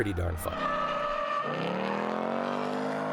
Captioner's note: tires screeching; engine roaring